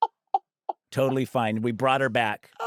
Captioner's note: laughs